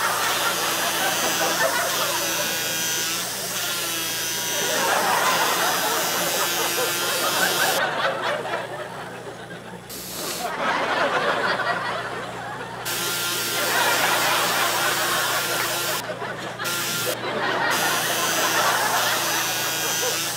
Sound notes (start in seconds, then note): 0.2 continuous audience laughter, intermittent buzzing; 10.2 sniffles; 10.9 audience laughter; 13.0 audience laughter, intermittent buzzing